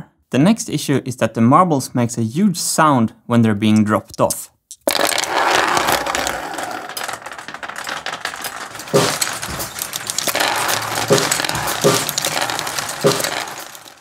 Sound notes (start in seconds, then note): 4.7 marbles rolling; 7.9 drum hit; 7.9 marbles rolling